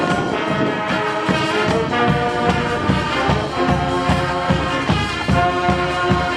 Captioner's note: band yell